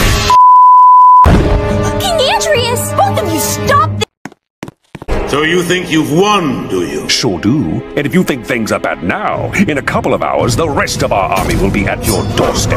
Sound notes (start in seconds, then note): 4.0 Roblox walking sound effect